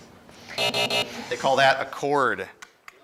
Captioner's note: alarm buzzes